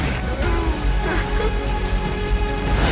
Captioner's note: giggling